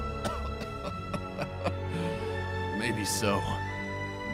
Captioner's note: laughs